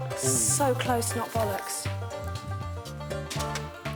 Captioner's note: upbeat music; paper thunking